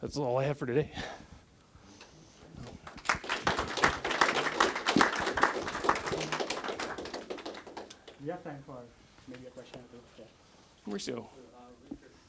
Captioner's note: applause